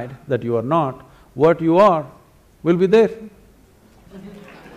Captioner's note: applause; 掌聲